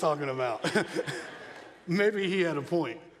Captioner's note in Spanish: se rie ligeramente